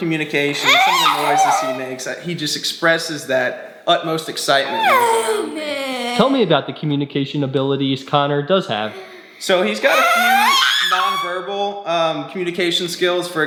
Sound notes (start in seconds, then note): 4.5 vocalizing